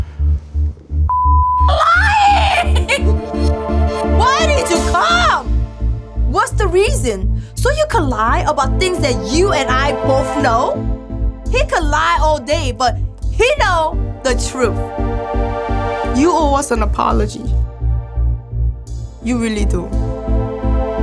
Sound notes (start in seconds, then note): 0.2 music intensifying; 1.1 beep; 20.7 sad music